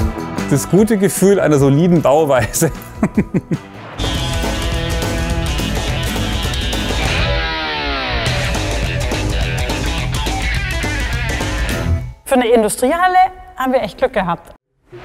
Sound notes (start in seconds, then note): 2.5 laughs; 4.4 dynamic music